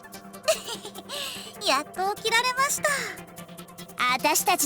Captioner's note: chuckle